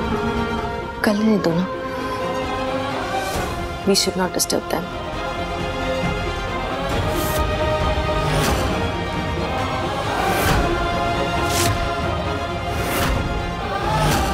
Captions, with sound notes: Let them. We should not disturb them. [emotional vocalising]